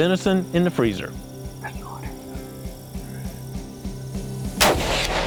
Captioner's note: whispering